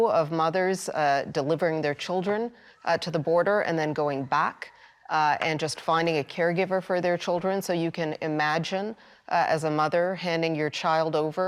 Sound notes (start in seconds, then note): none